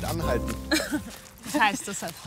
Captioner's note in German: lacht